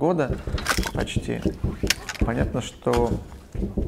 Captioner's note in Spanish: Explosiones lejanas consecutivas